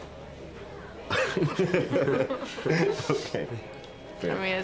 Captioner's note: laughing